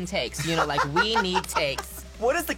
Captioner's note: laughs